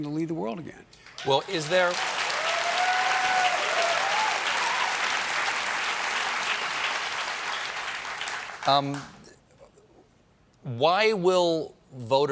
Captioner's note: applause